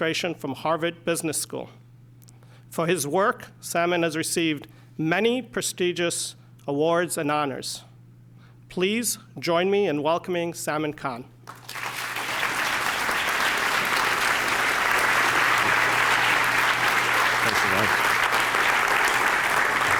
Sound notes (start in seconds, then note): 11.4 applause